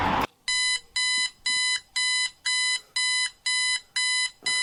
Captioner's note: alarm blaring